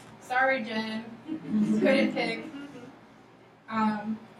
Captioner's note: laughing